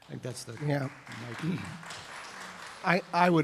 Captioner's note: applause